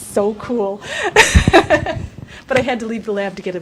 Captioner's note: laughs